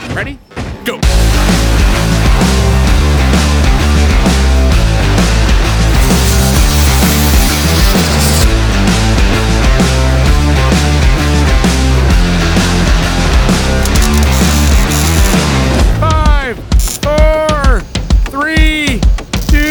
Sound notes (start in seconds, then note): 1.9 upbeat rock music; 5.6 welder sparking; 11.2 upbeat rock music continues; 13.7 welder sparking